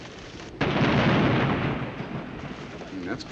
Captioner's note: explosion